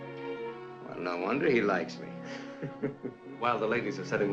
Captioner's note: chuckles